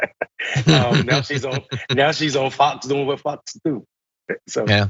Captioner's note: laugh